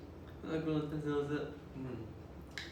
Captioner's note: speaking Japanese